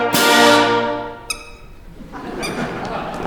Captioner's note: squeak; laughter